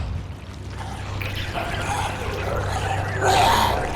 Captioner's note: coughs